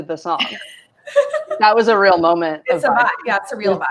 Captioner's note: laughing